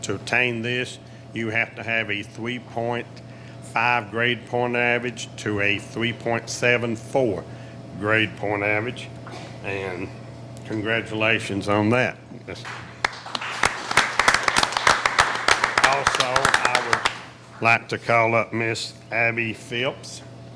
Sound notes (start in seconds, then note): 12.6 applauding